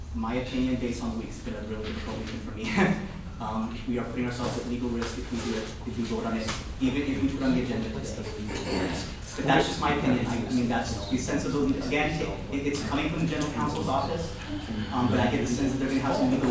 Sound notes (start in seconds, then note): 3.8 laughter